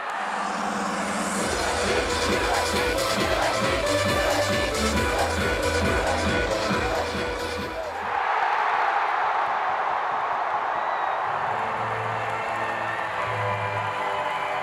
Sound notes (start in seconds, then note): 1.8 upbeat techno music; 8.2 crowd cheering